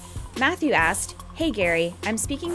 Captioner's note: voiceover